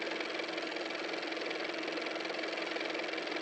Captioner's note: car motor